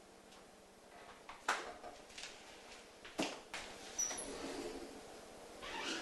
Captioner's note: cabinets opening and closing; closet door squeaks